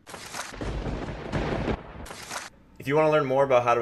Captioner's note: thunder cracking